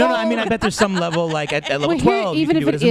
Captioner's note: laughs, joining in